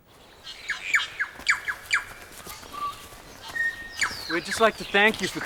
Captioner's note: birds chirp